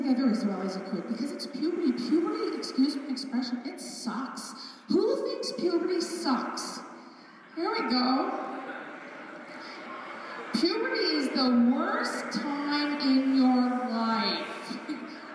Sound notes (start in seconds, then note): 7.7 laughter; 8.2 more laughter